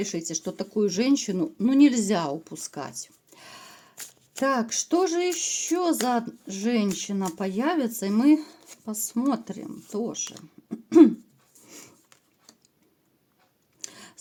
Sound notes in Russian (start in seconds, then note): 10.6 откашливается